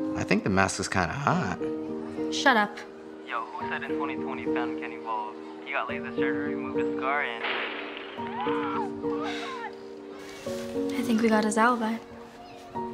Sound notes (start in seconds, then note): 7.4 chandelier crashing; 8.1 people yelling